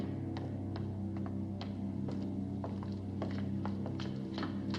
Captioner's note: footsteps continue